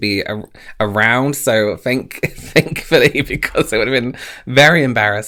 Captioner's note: laughs